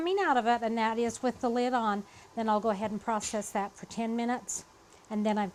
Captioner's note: none